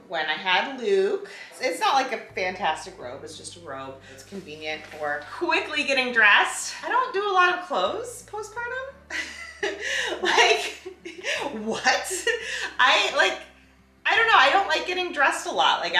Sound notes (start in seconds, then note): 9.2 laughs